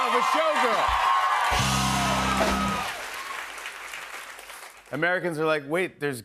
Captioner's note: cheers and applause